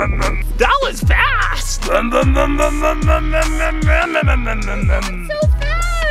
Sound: imitating car revving

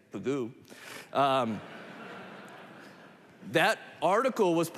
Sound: laughter

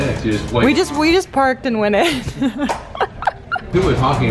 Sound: laughs

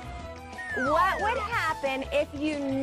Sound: slide whistle blows

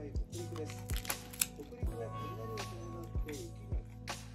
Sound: crunch

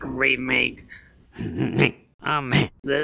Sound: snickering mildly intensifies

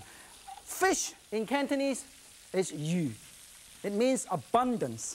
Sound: speaks in foreign language

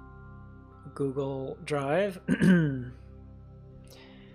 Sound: coughs

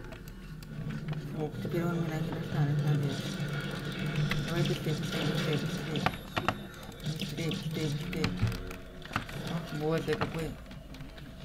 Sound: shots

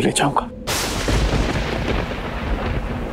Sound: thunder breaking

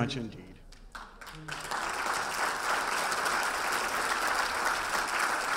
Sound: audience applauding

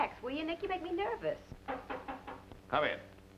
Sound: knock on door

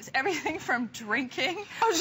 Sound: laughter

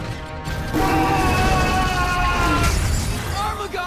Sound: screaming, shattering

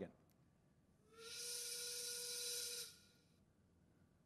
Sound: steam whistle

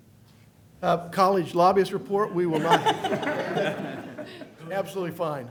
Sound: laughter

